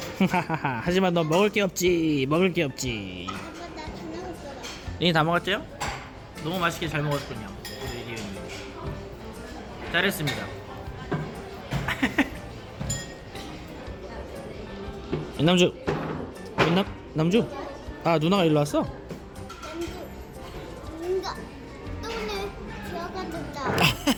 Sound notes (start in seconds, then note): 11.8 heehee